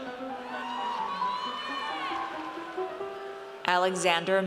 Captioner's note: audience cheers